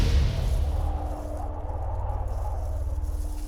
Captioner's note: wind blowing